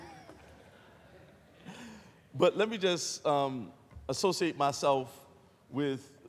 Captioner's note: laughter